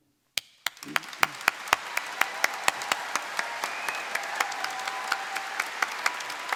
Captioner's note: applause